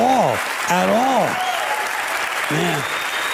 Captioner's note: applause